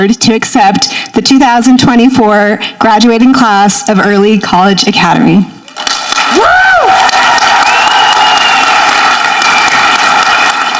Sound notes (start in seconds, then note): 5.7 audience clapping